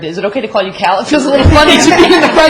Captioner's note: laughter